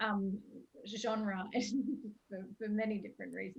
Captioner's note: chuckles